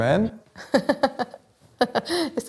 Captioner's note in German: Lachen